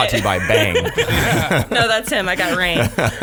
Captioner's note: laughing